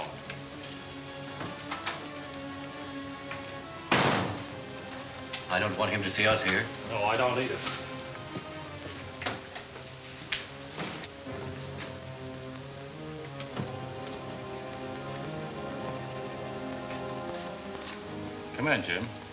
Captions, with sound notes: (door closing) - I don't want him to see us here. - No, I don't either. (pensive orchestra music) Come in, Jim.